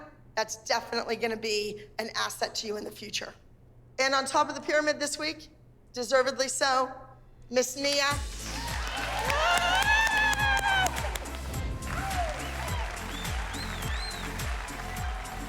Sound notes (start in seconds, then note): 8.2 applause; 11.1 upbeat music